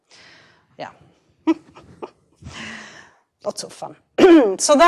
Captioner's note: chuckles